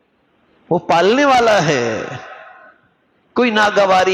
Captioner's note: sighing